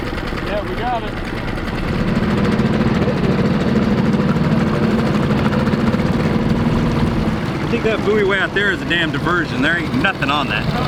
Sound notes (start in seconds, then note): 2.1 engine revving